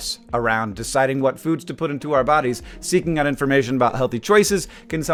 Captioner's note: none